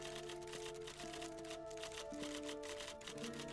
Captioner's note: typewriter keys clicking